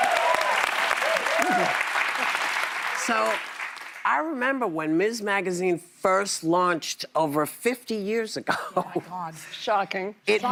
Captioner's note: applause